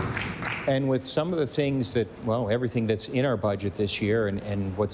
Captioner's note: applause